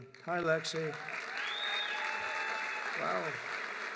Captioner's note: applause